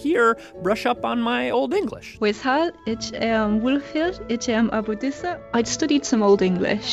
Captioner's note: speaking Old English